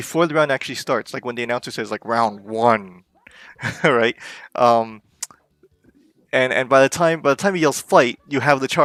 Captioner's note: snicker